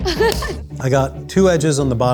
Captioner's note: laughs